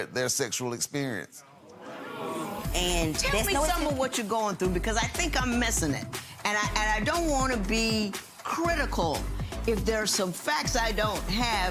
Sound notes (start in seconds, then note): 1.7 audience murmurs; 2.9 upbeat music